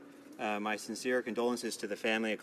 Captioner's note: speaking french